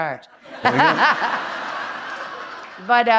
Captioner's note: laughter